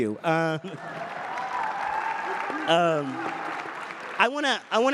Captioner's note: cheers and applause